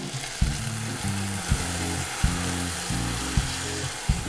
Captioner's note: pot simmering